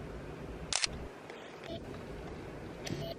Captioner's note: shutter clicks